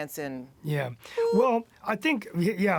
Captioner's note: makes bleep sound